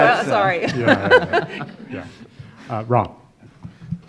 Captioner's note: attendees laughing